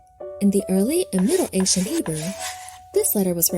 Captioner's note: pensive piano music; chalk scratching